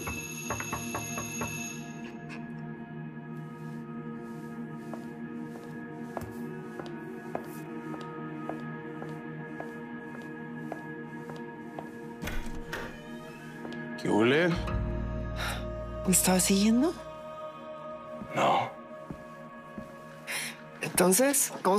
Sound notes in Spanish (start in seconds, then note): 0.5 Toques en la puerta